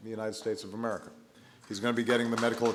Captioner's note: applause